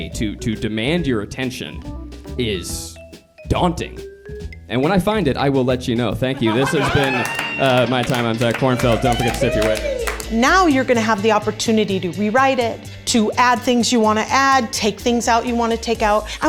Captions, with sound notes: to demand your attention is daunting. And when I find it, I will let you know, thank you. (everyone laughs) This has been my time, I'm Zach Kornfeld, don't think forget to tip your waiter. (everyone applauds and cheers) - Now you're gonna have the opportunity to rewrite it, to add things you wanna add, take things out you want take out.